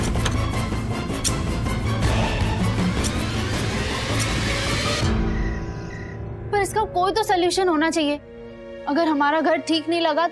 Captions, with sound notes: - [door opening] - [scissors snipping] [scissors snipping] But there has to be some solution. If our house isn't repaired,